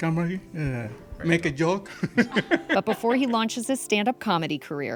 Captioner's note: laughs